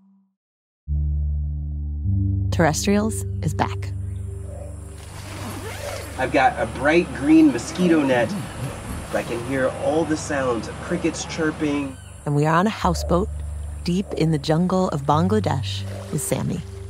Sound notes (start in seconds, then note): 0.2 buzzing. Then, music and jungle sounds mix together to create a bed of sound; 5.2 A zipper unzips; 12.1 water sloshes